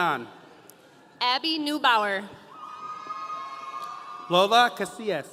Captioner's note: audience cheering